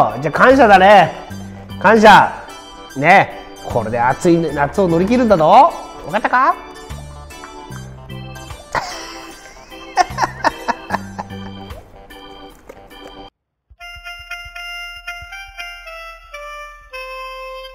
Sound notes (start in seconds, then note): 8.6 laughs